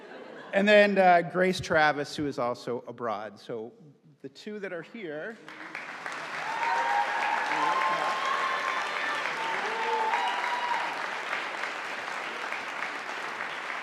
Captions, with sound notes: And then Grace Travis, who is also abroad. So, the two that are here. (audience applauding)